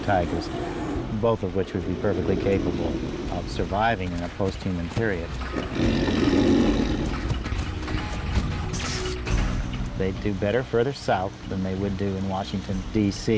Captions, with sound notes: might have tigers, both of which would be perfectly capable of surviving in a post-human period. [tiger growls] They'd do better further south than they would do in Washington, DC.